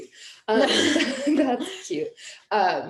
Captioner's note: laughing